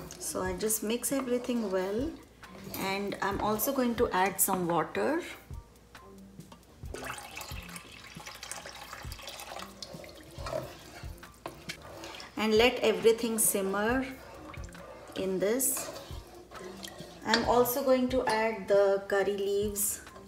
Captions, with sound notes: So I just mix everything well. And I'm also going to add some water. (water splashing) (spoon scraping) And let everything simmer in this. I'm also going to add the curry leaves,